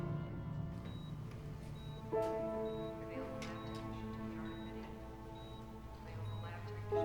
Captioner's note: tense piano music; monitor beeping